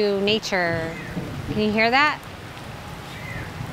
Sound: thunder rumbles

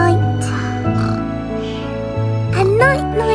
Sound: snoring

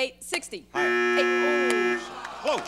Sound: buzzer

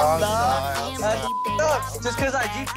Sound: beep

